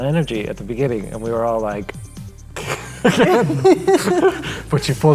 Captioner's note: laughing